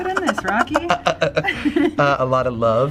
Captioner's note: laughing